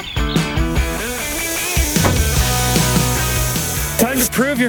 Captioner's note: tire hisses